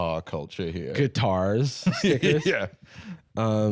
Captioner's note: laughs